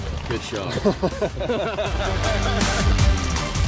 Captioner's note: men laughing